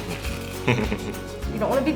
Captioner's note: laughs